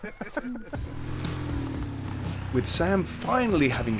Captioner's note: laughing; motorcycles revving